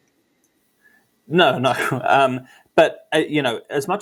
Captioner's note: laughs